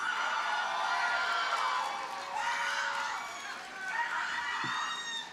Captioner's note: audience cheers and applauds